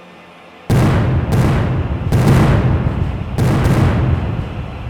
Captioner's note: cannons fire